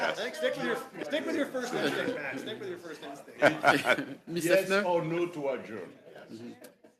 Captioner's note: laughter